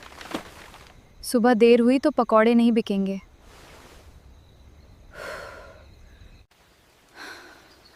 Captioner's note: deep breath